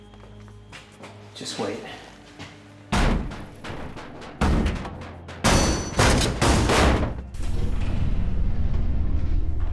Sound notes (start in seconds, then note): 3.0 pounding